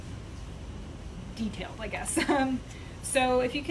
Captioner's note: chuckles